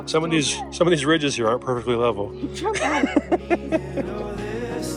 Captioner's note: laughing